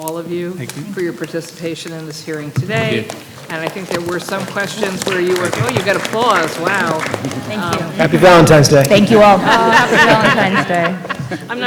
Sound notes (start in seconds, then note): 7.8 applause